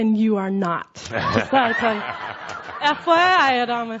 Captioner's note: laughter